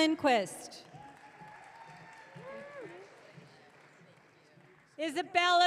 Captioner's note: audience cheering